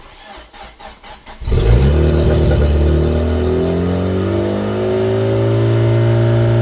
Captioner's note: engine Revving